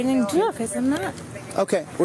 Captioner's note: radio chatter